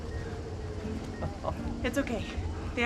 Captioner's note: chuckles